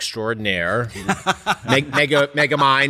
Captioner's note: laughs